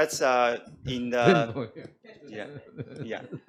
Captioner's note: laughs